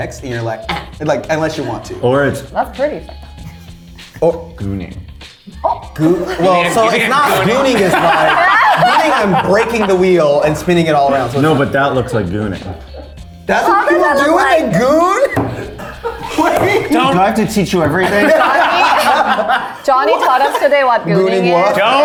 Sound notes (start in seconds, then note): 16.0 laughs; 18.2 all laughing